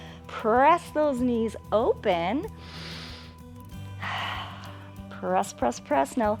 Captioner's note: inhales and exhales